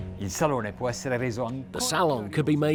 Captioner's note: speaking in foreign language